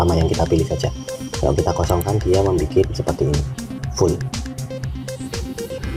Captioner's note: click